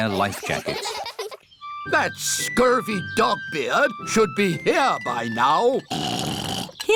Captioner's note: oinks